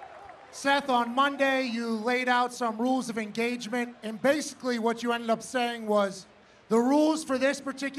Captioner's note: cheering